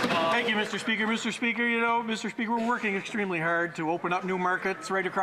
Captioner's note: some Applause